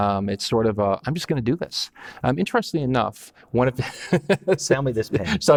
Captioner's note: laughs